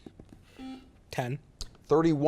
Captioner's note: buzzer beeps